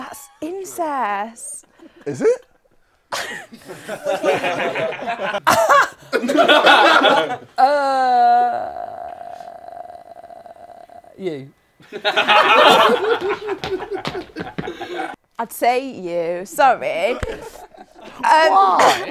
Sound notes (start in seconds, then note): 3.1 people laughing; 11.8 people laughing